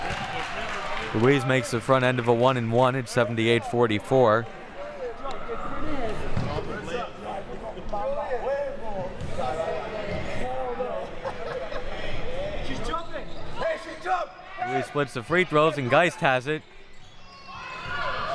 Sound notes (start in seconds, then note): 0.0 audience applauding; 5.5 audience chattering; 18.1 audience chattering and yelling